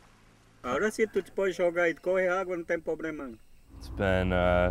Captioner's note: speaking foreign language